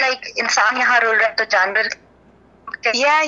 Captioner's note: speaks foreign language